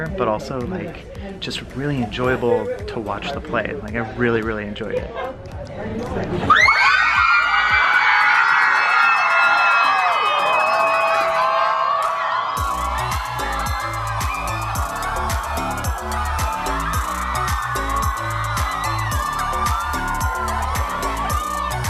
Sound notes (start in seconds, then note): 6.6 screaming; 14.2 upbeat music